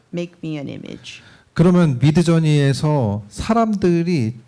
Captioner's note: speaking korean